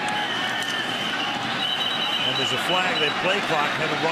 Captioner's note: whistle